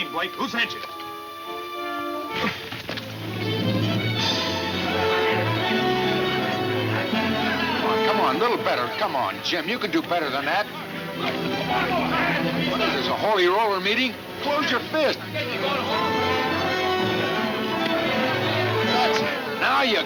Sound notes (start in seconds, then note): 0.2 dramatic music; 4.6 men shouting; 10.5 men shouting; 14.0 men shouting; 14.1 dramatic music